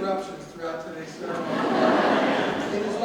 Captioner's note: audience laughs